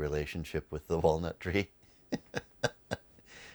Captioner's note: laughs